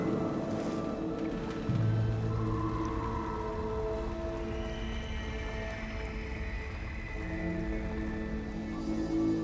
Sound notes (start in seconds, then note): 1.6 water lapping